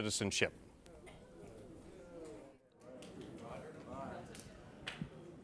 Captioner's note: scattered boos, murmuring